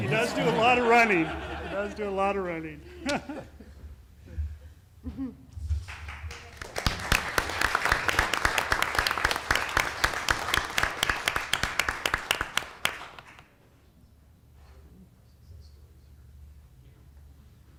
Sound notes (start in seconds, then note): 2.8 laughter; 7.3 applause